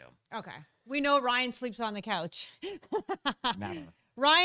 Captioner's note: laughing